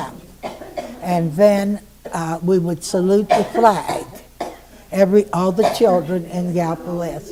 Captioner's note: coughing in background